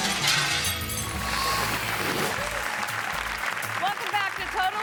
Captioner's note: audience applauding